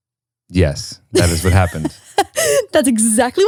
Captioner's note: laughs